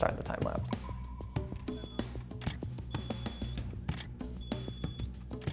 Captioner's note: camera beeping